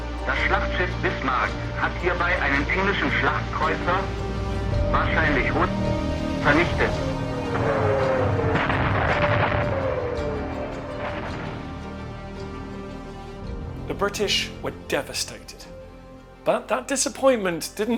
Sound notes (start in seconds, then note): 0.3 speaking in German; 8.9 shell explodes